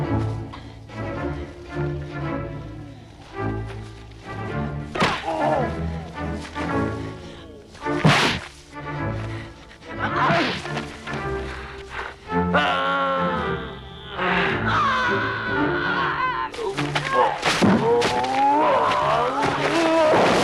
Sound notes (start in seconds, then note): 5.2 Torente groans; 8.0 punch slams; 12.6 Torente moans; 14.6 Hundra yells; 18.2 Torente shouts